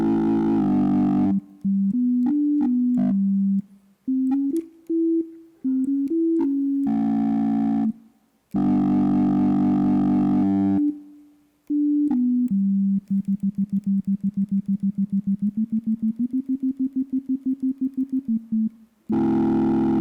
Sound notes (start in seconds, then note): 2.2 lower distorted tones echoing